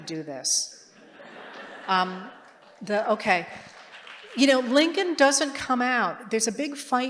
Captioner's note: laughter